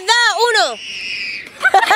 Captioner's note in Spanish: grito de niño